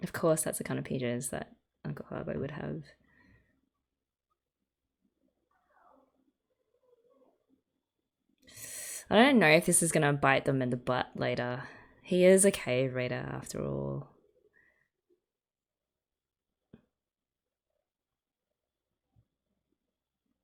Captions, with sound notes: Of course that's the kind of PJs that Uncle Habo would have. [sharp intake of breath] I don't know if this is going to bite them in the butt later. He is a cave raider, after all.